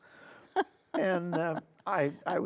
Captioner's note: laughing